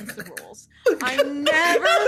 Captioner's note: laughing